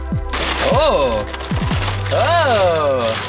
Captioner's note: paper shuffles